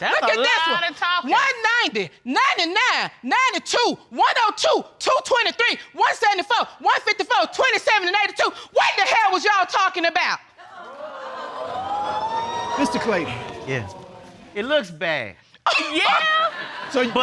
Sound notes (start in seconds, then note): 11.0 audience whoops; 16.2 audience laughing